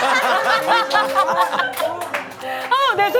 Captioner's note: laughs